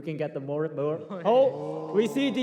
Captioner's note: crowd gasps